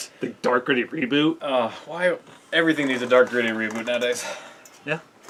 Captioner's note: groan